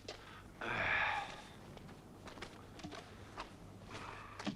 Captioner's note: Torente sighs